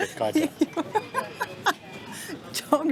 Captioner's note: laughs